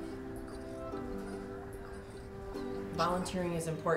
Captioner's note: puppy whimpering